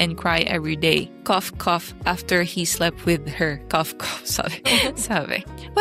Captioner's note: cough